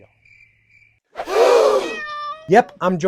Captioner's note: audience gasps; sassy cat noises